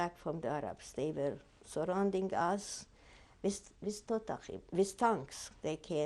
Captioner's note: hebrew